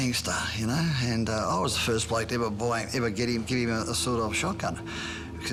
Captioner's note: stutters